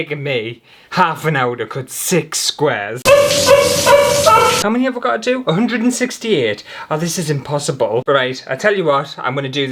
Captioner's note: crying